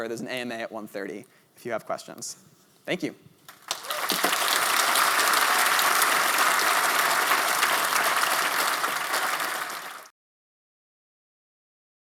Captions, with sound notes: There's an AMA at 1:30, if you have questions. Thank you. [APPLAUSE]